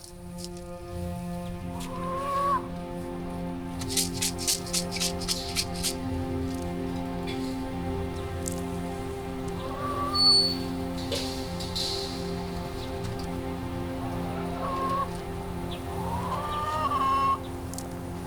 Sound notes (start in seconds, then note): 0.1 dramatic music; 3.8 seeds rattling; 11.0 gate creaking